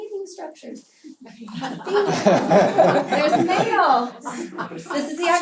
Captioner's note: laugh